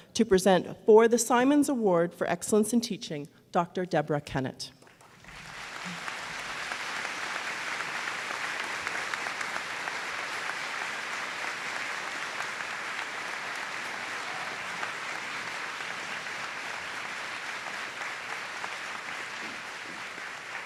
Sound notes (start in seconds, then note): 5.7 applause